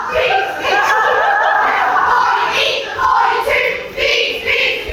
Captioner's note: chanting; still chanting